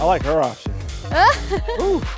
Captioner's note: laughs